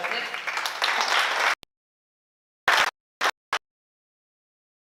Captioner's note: oklaski